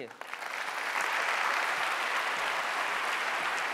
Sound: applause

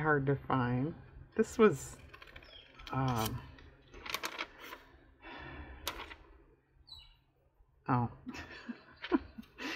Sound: laughs

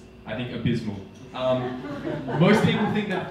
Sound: audience laughing

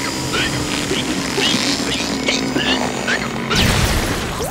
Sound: hiccupping

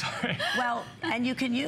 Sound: laughter

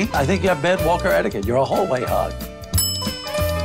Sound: bell dings

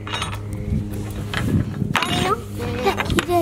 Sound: spoons clanking

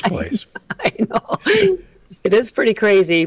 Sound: laughs

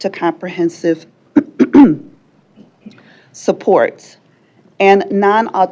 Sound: clears throat

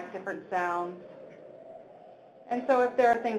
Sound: wind howling

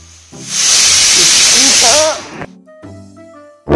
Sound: pressure cooker Whistle; serious Music

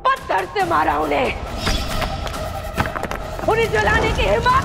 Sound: stones clacking

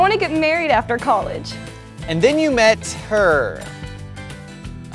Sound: voiceover

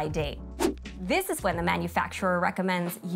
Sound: graphic whooshing

